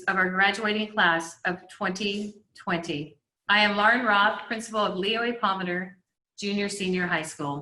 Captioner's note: none